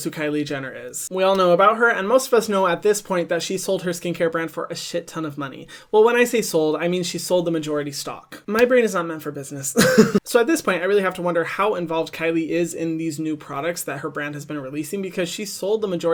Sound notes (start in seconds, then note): 9.8 laughs